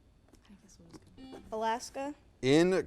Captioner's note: buzzer